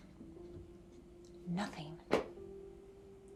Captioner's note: hands thudding